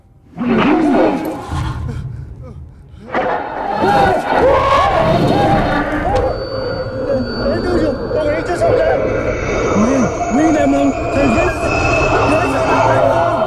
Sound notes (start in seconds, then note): 0.2 ghost howling; 4.0 Dao screams; 7.1 eerie ringing